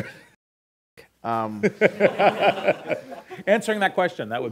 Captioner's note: laughter